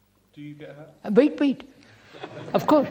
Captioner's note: laughter